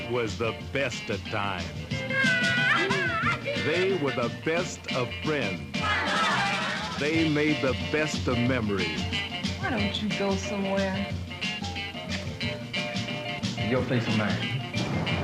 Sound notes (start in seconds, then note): 5.6 people chattering